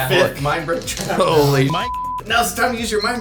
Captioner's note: beep